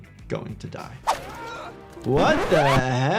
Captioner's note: Morty screams